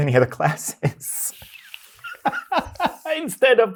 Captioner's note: both laughing